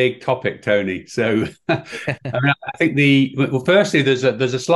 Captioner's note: chuckling